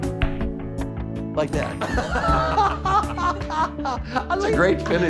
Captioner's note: inspiring music; laughing